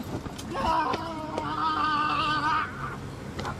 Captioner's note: enraged screaming